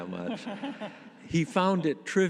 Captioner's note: audience laughing